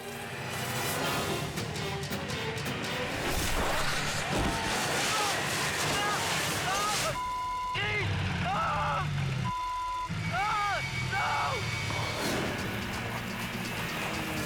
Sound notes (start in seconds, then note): 0.0 suspenseful music; 3.0 skier thudding; 7.1 beep; 9.4 beep; 10.1 dramatic music